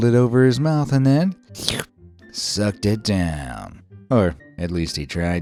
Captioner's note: slurps